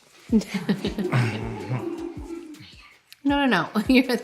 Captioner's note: laughing